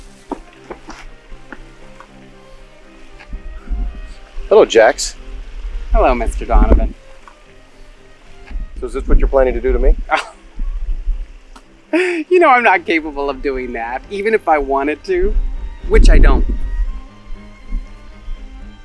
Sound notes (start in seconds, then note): 0.0 assistant splashes; 0.3 dramatic music; 10.0 laughs